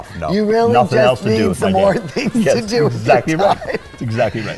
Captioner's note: laughs